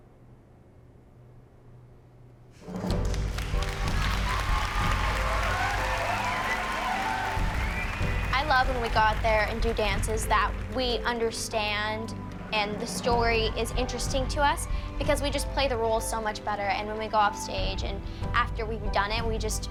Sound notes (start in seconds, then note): 5.7 applause